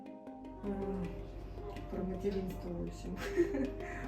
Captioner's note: laughs